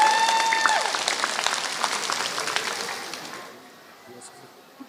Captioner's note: applause